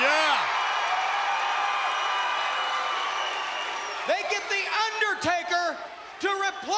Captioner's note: applause